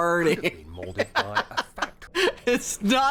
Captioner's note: singing; laughs